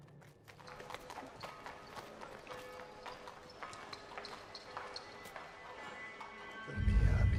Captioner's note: horse hooves clopping; church bell ringing